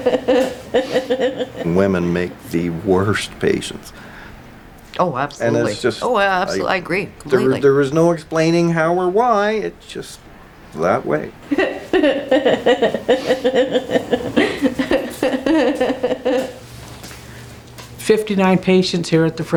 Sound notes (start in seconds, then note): 11.5 laughing